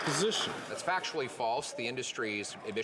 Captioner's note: applause